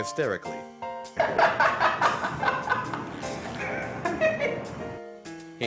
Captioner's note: laughter